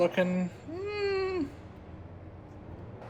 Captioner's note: unease noise